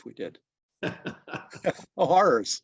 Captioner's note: both chuckles